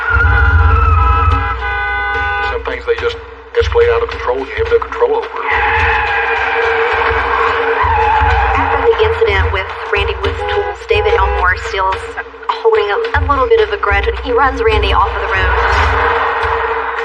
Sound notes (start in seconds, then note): 0.0 honking ho; 4.2 tires screechg